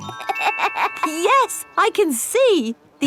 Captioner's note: laughs